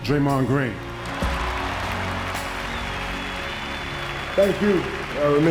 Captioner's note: crowd cheering